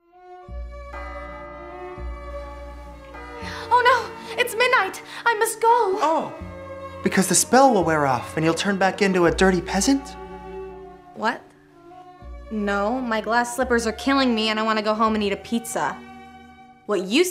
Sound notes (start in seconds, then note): 0.4 classical music; 0.9 grandfather clock chimes